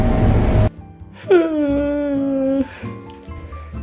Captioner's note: exhausted wailing